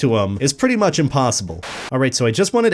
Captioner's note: Static